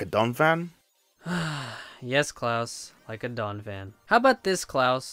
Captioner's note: sigh